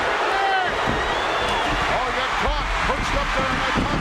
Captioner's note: audience cheering